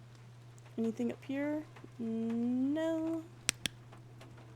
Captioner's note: flashlight Clicks Off